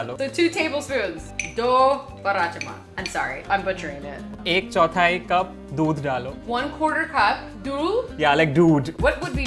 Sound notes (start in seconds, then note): 0.0 speaking in Hindi; 1.9 speaking in Hindi; 4.6 speaking in Hindi